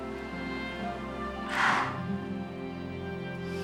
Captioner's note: sighs